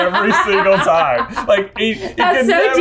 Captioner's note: laughing